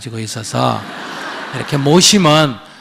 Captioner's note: audience Laughter